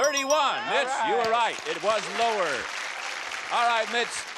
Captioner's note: applause